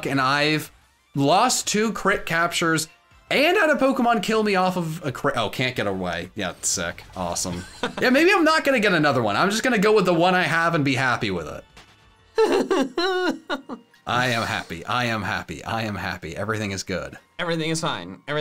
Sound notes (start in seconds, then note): 12.3 giggling